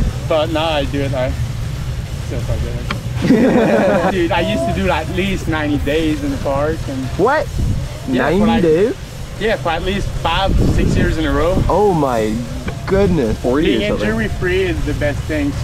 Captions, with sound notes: But now I do it, like, still quite a bit actually. (laughing) - Dude, I used to do that at least 90 days in the park. - What? 90 days? - Yeah, for at least five, six years in a row. - Oh my goodness. - Being injury free is the best thing.